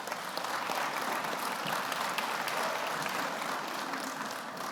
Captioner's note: audience applauds